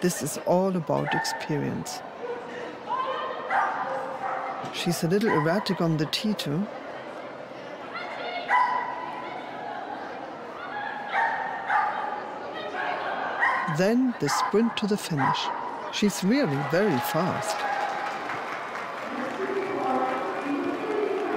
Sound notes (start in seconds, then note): 3.5 dog barking; 11.6 dog barking; 16.4 crowd cheering and clapping